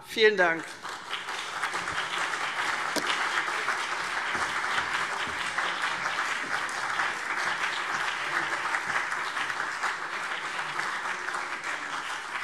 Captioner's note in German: Beifall CDU und BÜNDNIS 90/DIE GRÜNEN